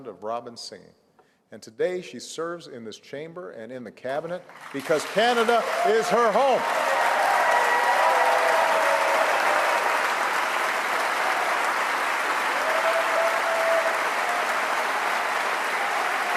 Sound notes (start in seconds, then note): 9.6 cheers & applause